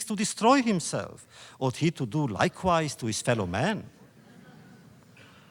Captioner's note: laughter